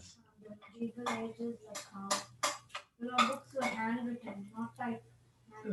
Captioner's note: indistinct conversation